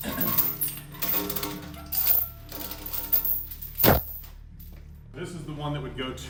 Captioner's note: chains clanking to the floor